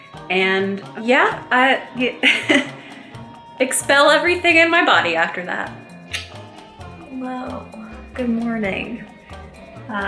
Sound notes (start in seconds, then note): 2.2 chuckling; 6.0 tongue clicking